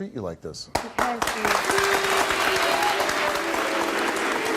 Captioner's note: audience applauds